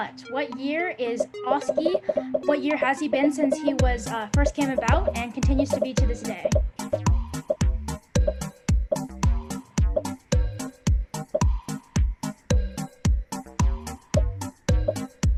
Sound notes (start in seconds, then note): 1.6 upbeat music; 6.7 popping